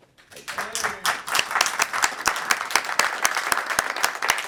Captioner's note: audience clapping